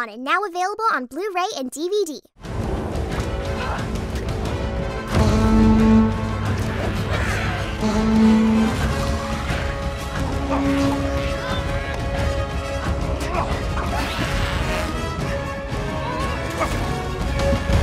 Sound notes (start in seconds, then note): 2.9 adventure music; 4.3 grunting; 13.8 tiny screams